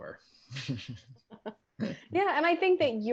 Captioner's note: laughs